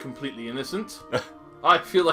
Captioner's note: NinjaFish laughs